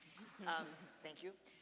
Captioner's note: audience applauds